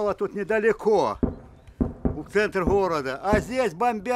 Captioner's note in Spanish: Explosiones cercanas